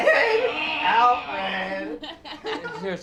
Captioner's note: laughing